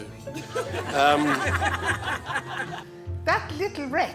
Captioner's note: all laughing